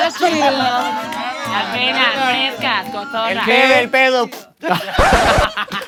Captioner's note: farts